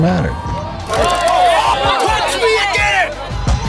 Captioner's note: yelling